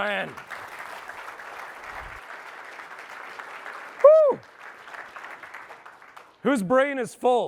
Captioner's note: applause